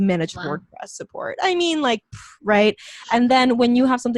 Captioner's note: exhales